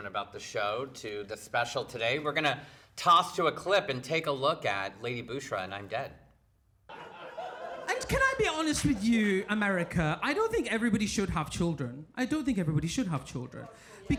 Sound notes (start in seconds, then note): 6.9 people laughing